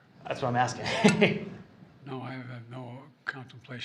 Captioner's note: laughs